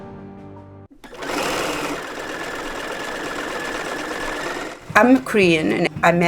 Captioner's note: sewing machine whirring